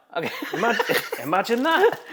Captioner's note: host laughs